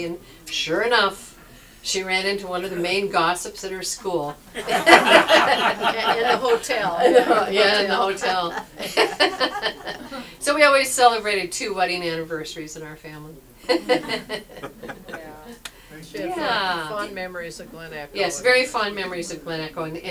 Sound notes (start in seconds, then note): 4.5 audience laughs; 8.6 laughs; 13.7 audience laughs